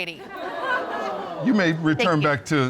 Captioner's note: audience laughs